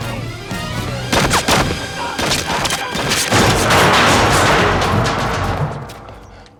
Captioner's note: dramatic music; guns firing